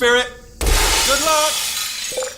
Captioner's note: crash